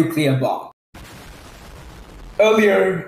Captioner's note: boom